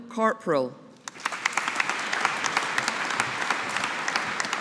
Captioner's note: audience applauding